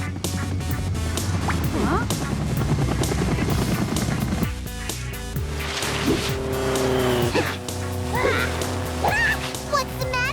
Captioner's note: blades spinning